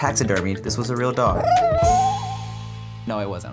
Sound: dog cries

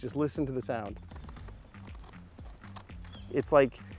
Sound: knife crunching through mushroom stem

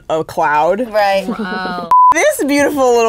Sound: beep

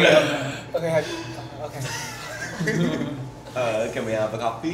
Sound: laughs

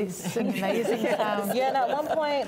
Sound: both laughing

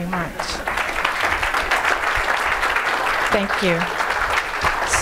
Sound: audience applauding

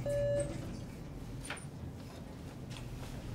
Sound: beeping

